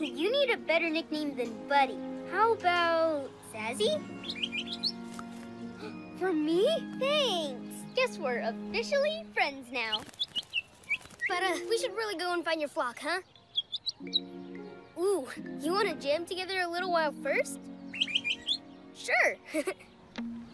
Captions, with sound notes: Hey, you need a better nickname than buddy. How about Zazi? (Chirps) (Gasps) For me? Thanks! - We're officially friends now! - (Chirps) But we should really go find your flock, huh? - (Chirps) - Ooh! You wanna jam together a little first? - (Chirps) - Sure! (Chuckles)